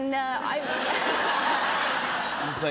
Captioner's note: laughter